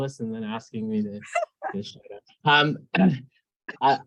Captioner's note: laughing